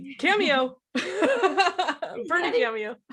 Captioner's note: laughs